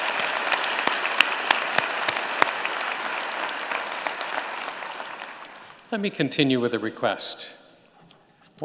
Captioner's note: applause